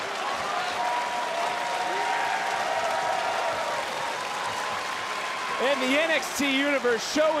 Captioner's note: crowd cheers